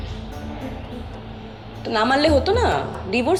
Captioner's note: none